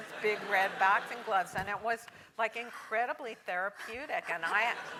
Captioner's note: laugh